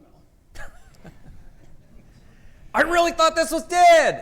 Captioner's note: laughs